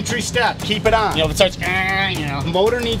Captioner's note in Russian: Имитация звука